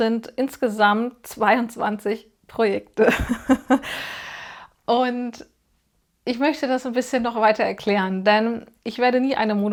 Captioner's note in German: gelächter